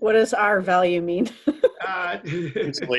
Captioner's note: laughing